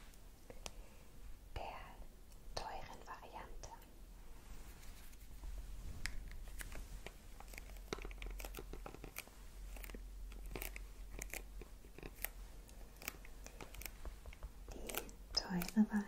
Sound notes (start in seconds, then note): 3.3 packaging sounds